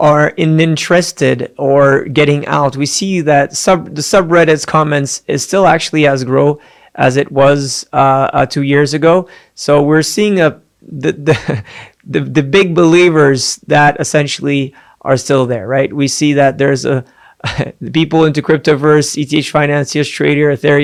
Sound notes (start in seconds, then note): 11.2 giggles; 17.4 giggles